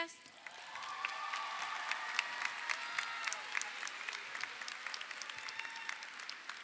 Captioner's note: audience applauds; audience cheers